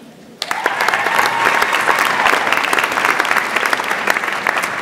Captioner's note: audience applauds